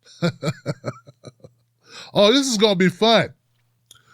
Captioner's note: chuckles